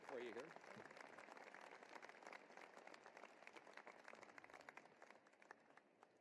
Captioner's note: applause